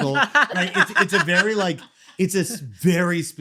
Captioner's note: laughing